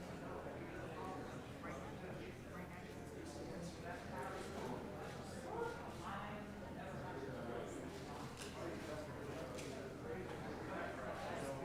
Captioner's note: indistinct chatter